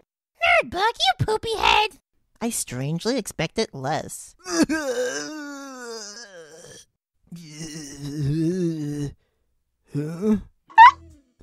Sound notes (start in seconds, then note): 4.4 groans in pain